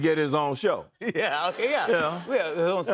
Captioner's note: laughter